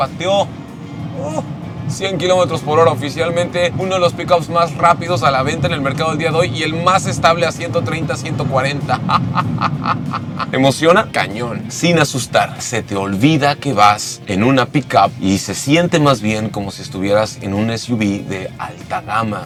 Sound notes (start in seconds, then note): 8.8 laughter